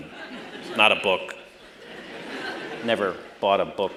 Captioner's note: laughter